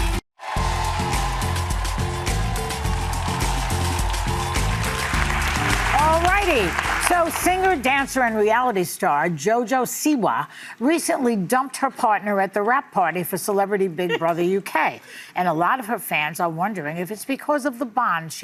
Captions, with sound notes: (audience applauding) (upbeat music) Alrighty, so Singer, dancer and reality star, JoJo Siwa recently dumped her partner at the rap party for Celebrity Big Brother UK. And a lot of her fans are wondering if it's because